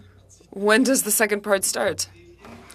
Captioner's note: speaking French